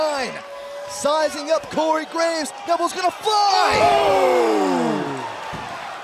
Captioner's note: crowd cheering